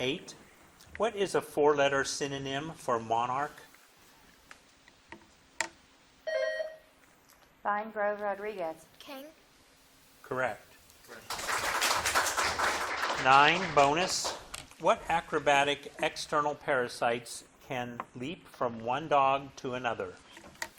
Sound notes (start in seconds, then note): 6.3 bell dinging; 11.0 audience clapping